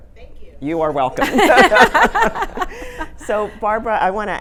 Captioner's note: all laughing